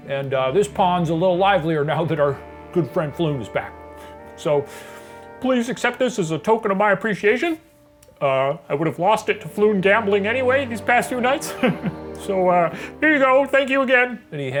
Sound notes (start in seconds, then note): 11.4 laughs